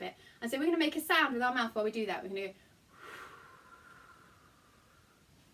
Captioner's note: blow